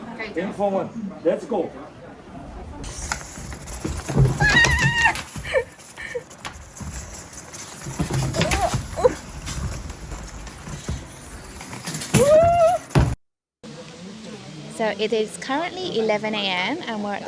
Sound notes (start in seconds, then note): 4.2 annoying shrieking noises